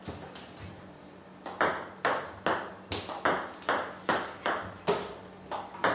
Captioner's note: ball ping pong hitting continues